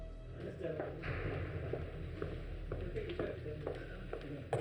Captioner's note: men chattering